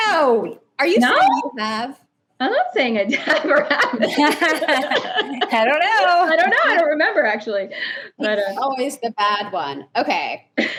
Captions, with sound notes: - And you're beyond that. - I don't give a shit. (chuckles) - I mean, as long as long as we're not fighting or anything, I'd rather have sex than clean a bathroom, yeah.